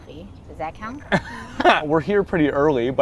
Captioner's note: laughing